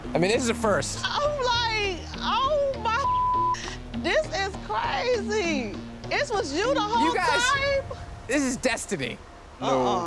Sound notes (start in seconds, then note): 3.0 beep